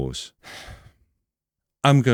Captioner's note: sigh